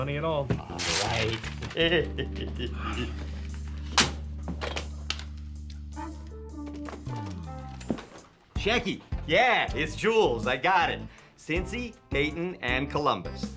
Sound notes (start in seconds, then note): 1.6 chuckles; 3.8 bright music continues; 3.9 paper thuds